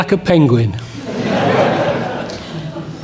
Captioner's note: laughter